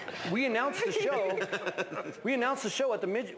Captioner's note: laughs